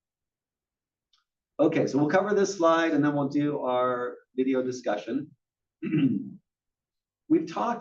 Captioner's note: cough